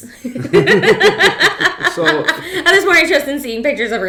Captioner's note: laughing